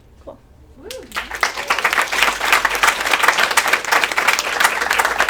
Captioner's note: attendees applaud